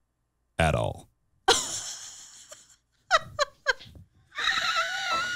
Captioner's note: chuckles